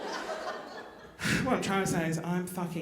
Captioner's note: sighing